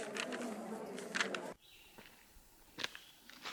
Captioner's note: none